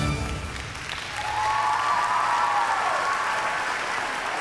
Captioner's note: cheering and applause